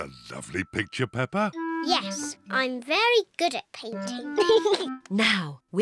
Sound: giggles

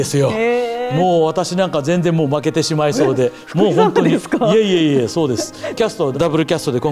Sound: laughs

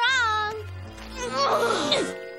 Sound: grunting

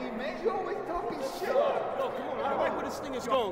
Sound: chattering

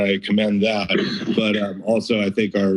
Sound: background coughing

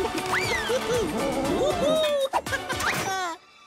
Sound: upbeat music; giggling

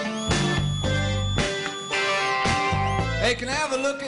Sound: audience whistles

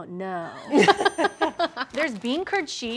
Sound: laughter

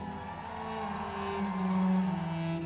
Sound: cheering

